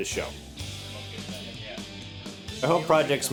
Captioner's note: chatter